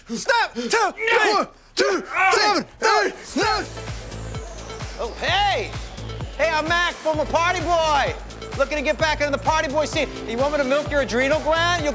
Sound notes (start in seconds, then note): 1.8 grunting; 3.5 dance music playing